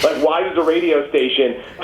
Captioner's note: laughs